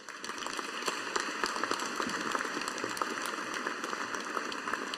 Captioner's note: audience applauding